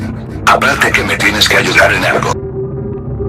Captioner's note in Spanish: none